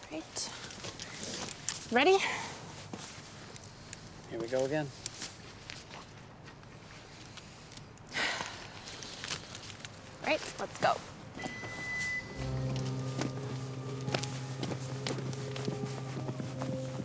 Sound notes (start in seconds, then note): 8.2 Olivia sighs; 13.2 hatch closes